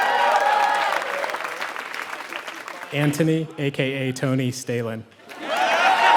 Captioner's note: applause; applause